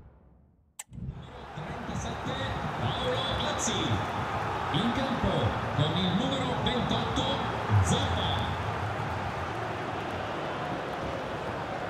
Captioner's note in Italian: Applauso